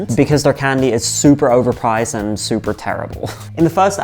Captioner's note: laughs